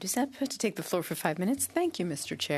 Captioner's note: speaking French